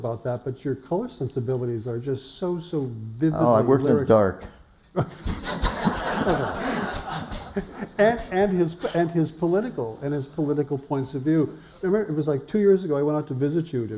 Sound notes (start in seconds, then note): 4.9 laughter